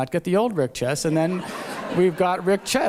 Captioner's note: laughter